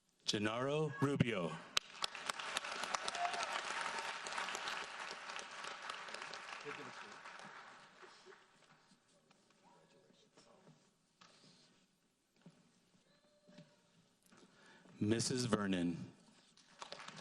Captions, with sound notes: Genaro Rubio. (audience applauds) Mrs. Vernon.